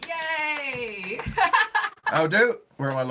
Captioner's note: laughing